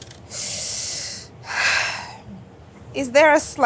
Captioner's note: sighing